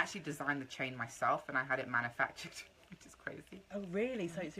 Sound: laughs

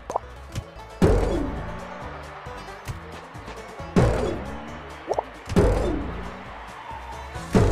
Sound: jump sound

